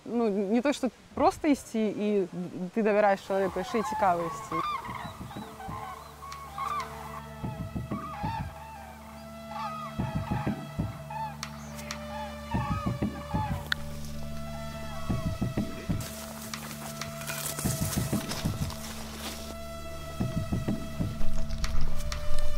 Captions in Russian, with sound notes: Идёшь не просто потому, что доверяешь человеку, а ещё и потому, что интересно. [крик журавлей, играет музыка]